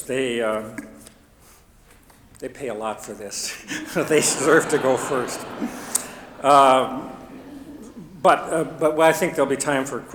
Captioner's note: chuckles